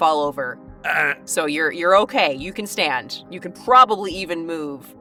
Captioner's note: groans